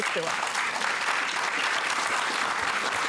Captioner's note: applause